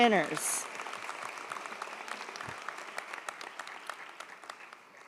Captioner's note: audience applauds